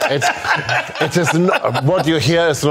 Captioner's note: both Laughing